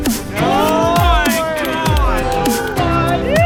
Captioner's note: men cheering